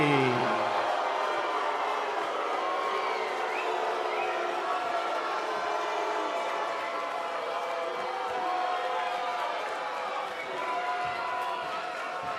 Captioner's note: cheers & boos